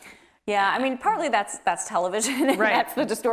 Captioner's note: laughs